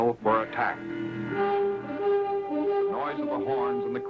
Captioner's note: horn blaring